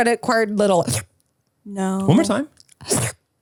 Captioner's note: slurps